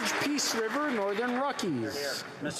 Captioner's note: applause